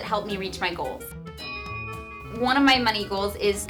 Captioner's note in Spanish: Ding